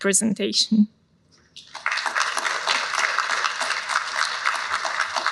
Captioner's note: applause